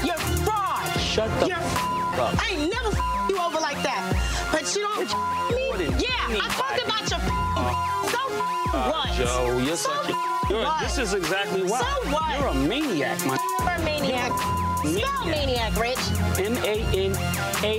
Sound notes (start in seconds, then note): 1.6 beeps; 7.7 beeps